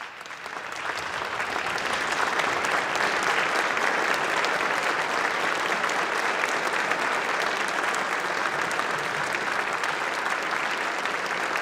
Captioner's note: applause